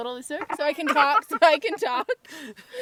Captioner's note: laughs